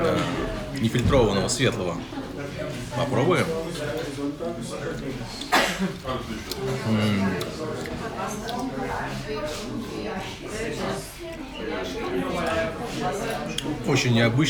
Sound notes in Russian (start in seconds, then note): 4.2 гомон голосов